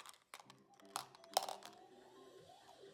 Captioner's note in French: Bruit de m&m's qui roulent